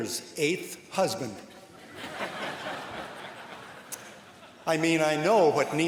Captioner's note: laughter